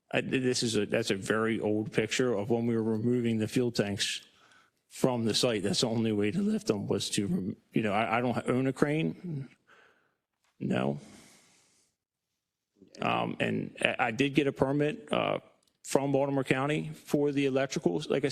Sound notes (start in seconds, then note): none